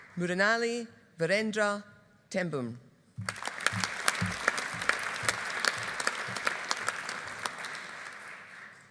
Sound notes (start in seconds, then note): 3.2 audience applauding